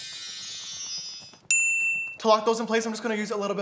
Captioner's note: high pitched ding